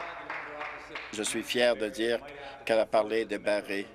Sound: applause

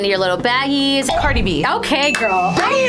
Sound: dinging sound

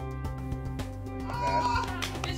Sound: laughter and claps

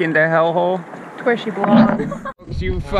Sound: laughing

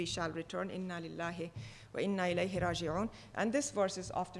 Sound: speaking foreign language

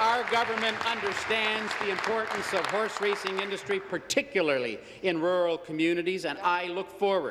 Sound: applause

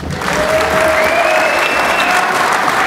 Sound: applause

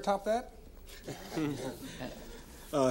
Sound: all laughing

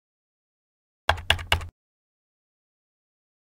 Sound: sound of keyboard key presses

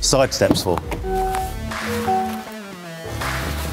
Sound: door dinging; upbeat rock music

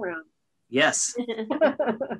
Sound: chuckles

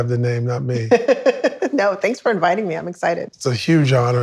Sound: laughs

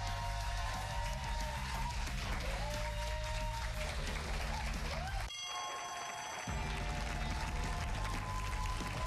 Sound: cheers and applause; bell rings

